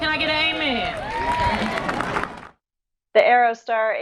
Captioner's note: crowd cheering